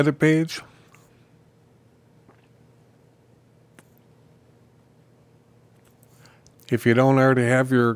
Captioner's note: silence